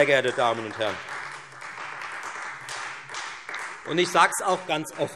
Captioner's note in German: Beifall Freie Demokraten